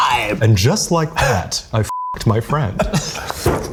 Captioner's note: beep